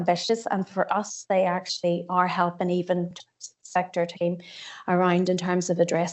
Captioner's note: audio distorts 35.51